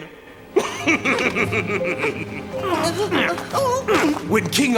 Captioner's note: laughs sinisterly